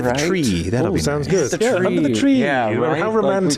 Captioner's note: the Group Agrees in Unison